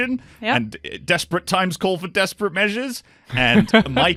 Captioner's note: laughter